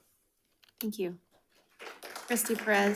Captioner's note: audience clapping